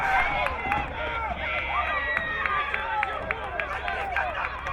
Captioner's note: crowd cheering